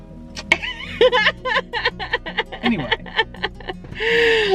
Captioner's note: laughing